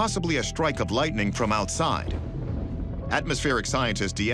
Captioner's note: thunder rumbles